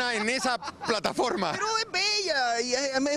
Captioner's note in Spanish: risas